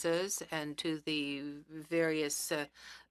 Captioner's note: speaking French